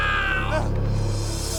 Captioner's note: man screams; gasps